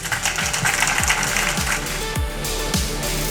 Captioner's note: applause; outro music